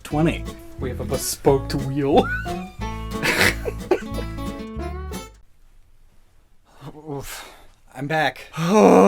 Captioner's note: manly laughter